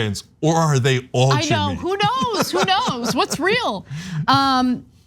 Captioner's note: laugh